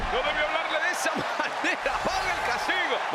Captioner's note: laugh